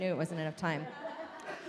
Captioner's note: audience laughs